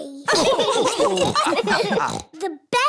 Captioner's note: laughter